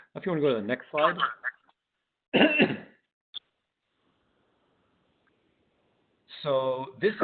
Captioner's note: clears throat